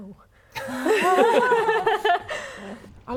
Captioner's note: laughing